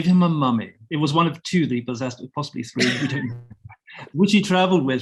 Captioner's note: chuckling